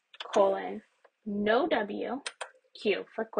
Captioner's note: keyboard clicks